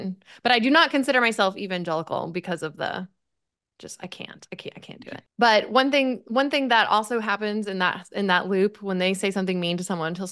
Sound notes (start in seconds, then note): none